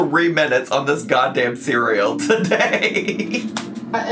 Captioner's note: laughs